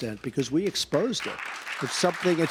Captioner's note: applause